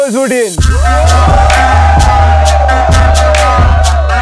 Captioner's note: Hooting